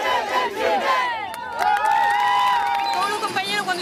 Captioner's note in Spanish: Aplausos